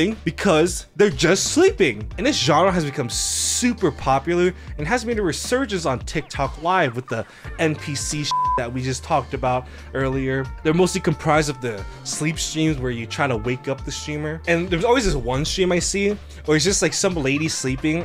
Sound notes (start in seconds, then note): 8.3 beep